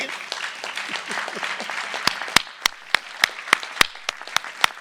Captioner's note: audience applauding